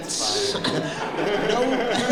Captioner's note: laughter